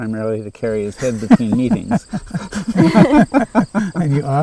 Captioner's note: laughing